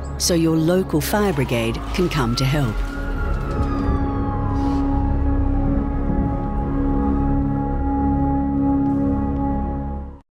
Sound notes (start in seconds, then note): 2.7 fire truck blaring; 4.1 suspenseful music